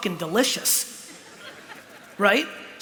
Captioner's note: laughter